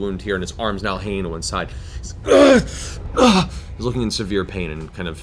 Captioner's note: grunts